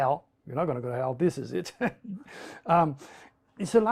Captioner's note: laughs